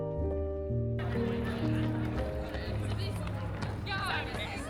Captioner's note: people chattering